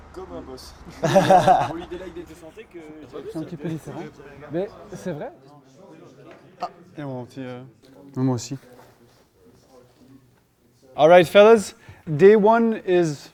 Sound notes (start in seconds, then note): 1.0 chuckle